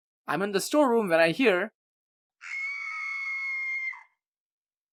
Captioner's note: horrific scream